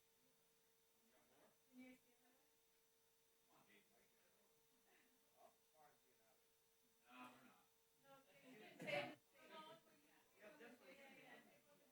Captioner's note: background chatter